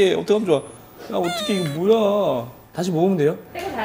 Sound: whimpering

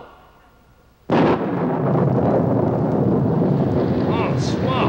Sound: thunder booms

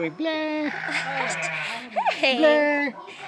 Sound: laughs

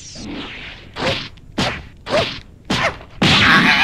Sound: KRILLIN's various pained grunts; KRILLIN screams

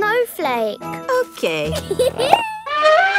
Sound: giggles; trumpets

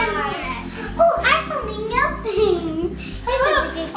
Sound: giggles

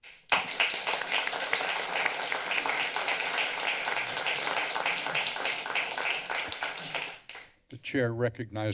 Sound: applause

